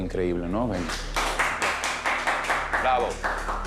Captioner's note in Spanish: Aplausos